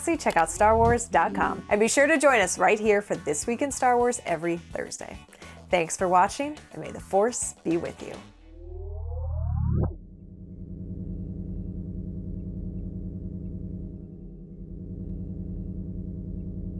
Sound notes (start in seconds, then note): 9.9 machinery hums; 10.1 low mechanical thrumming